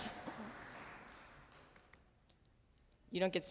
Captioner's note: applause